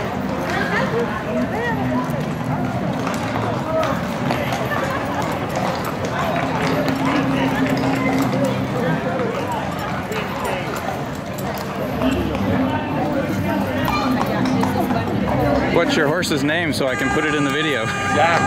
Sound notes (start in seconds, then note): 2.3 sound of horse hooves on pavement